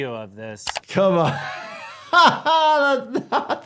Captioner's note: laughing